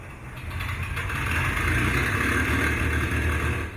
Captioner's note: engine firing